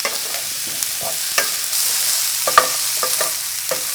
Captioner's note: sizzling